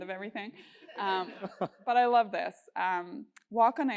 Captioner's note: laugh